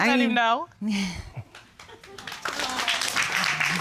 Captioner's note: chuckles